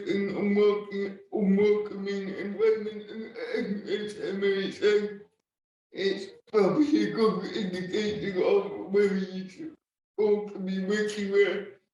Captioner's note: laughing